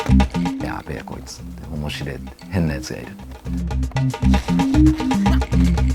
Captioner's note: dramatic music; speaking in foreign language